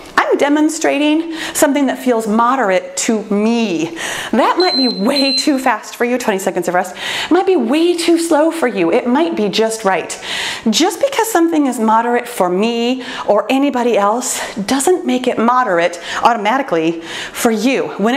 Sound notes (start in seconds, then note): 4.4 timer beeping